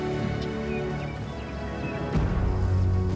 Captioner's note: birds chirping